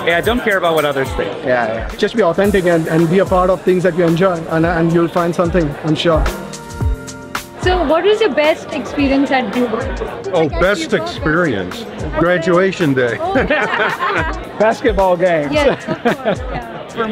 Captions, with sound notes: - Yeah. Don't care about what others think. - Yeah. - Just be authentic and be a part of things that we enjoy and you'll find something I'm sure. - So what is your best experience at Duke? - Oh, best experience. Graduation day. (laughter) - Basketball games. - Yes, of course.